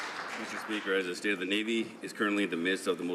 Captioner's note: some Applause